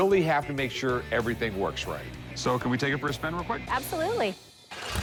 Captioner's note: none